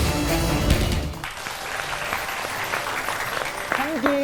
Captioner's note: applause